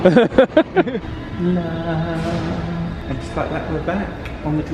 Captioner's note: laughing